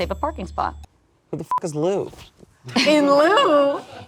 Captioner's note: beep